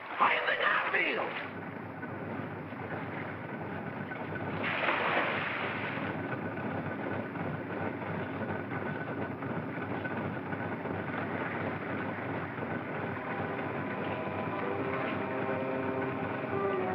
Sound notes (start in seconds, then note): 2.4 machinery sound; 4.6 water splashes; 6.8 machinery sound; 12.5 ominous music; 14.0 machinery sound